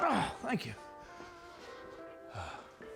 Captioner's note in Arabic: أنين